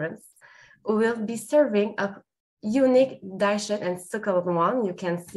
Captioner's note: speaks French